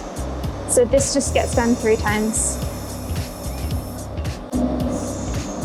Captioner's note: hissing